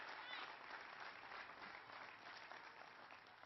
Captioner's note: applause